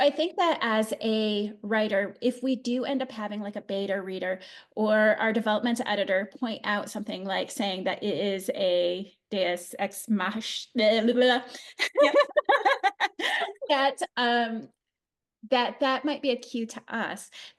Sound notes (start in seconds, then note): 11.7 laughter